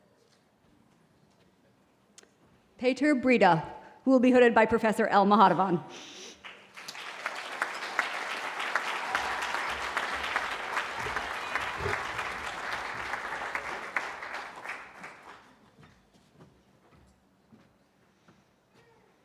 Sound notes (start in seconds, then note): 6.4 applause